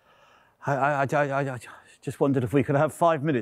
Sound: stammering

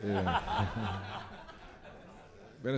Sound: laughter

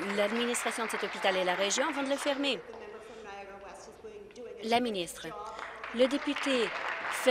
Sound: applause

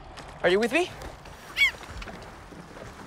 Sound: News Coo seagull squawks

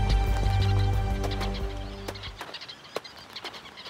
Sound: weavers chirping

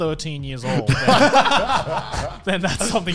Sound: laughing

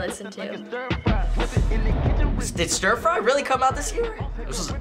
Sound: inhales sharply

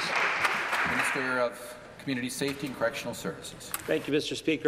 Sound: applause

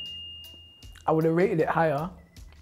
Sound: bell dings

